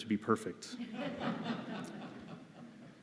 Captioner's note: laughter